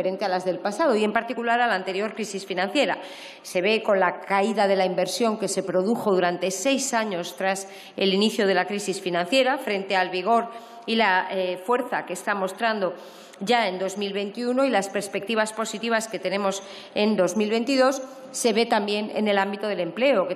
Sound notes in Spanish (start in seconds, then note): none